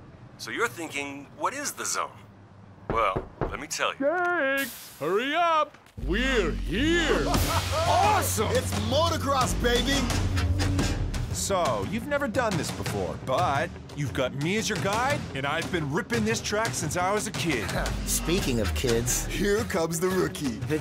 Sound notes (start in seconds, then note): 2.8 knocking; 6.9 laughing